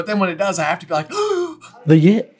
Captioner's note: gaaaaaaasp